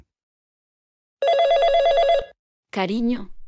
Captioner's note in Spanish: FX - Office Phone Ring